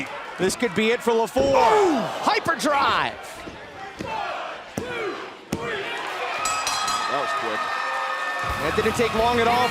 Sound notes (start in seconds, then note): 6.4 bell ringing